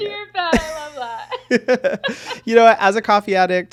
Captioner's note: both laughing